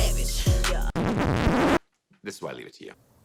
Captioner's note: record scratching